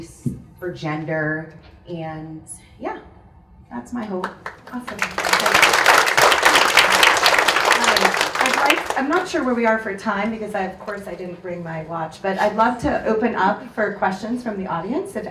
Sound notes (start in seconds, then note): 4.2 audience claps